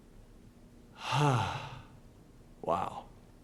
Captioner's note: exhales